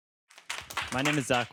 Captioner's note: applause